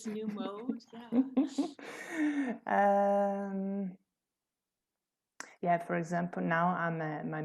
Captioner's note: laughter